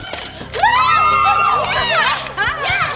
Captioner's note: cheers